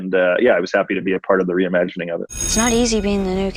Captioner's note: school bell ringing